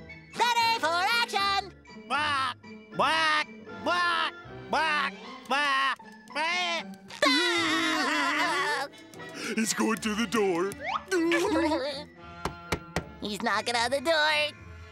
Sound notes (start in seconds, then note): 7.0 laughing; 11.1 giggling